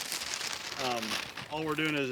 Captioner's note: paper bag rustling